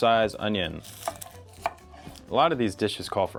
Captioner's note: knife hitting board